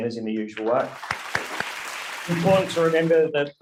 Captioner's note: audience applauding